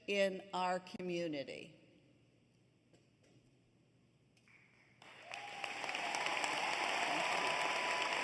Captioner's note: applause